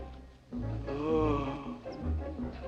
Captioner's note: groaning